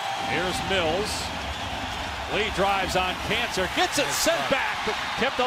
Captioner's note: cheers and applause